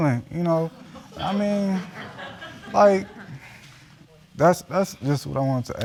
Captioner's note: audience chuckling